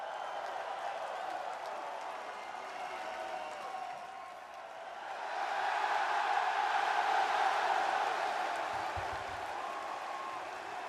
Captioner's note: crowd cheering